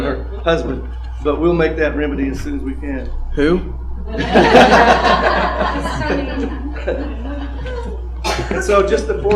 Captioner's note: laughter